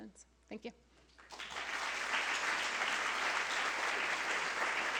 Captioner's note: applause